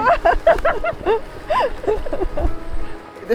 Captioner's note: laughing